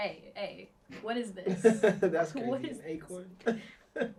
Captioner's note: laughs